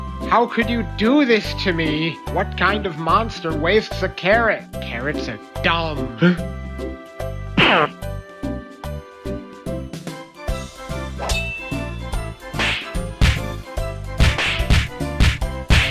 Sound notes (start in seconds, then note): 6.2 gasp